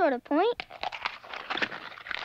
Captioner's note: cracking